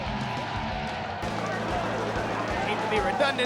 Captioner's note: crowd cheering; energetic rock music